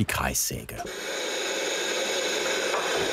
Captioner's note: hissing noises